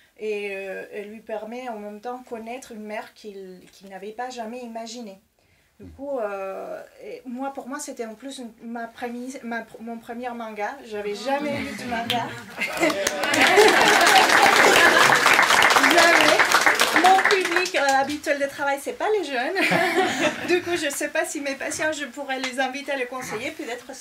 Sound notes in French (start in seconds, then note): 12.5 applaudissements